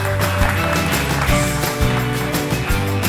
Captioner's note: applauding